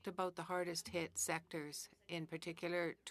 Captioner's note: speaking in French